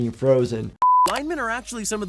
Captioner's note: screen beeps